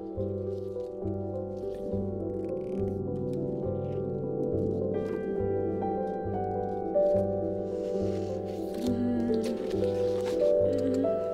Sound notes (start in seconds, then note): 8.8 groans